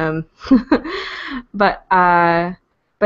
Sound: laughter

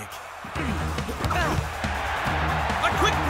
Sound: crowd cheering

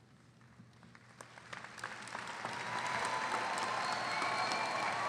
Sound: audience applauding

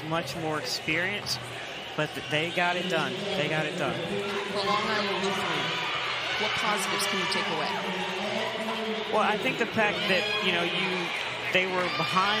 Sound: crowd noise

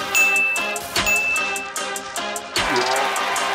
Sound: bell dings; applause

